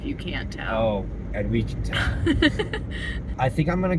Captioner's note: laughter